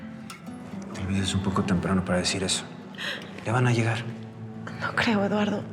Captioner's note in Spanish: sollozos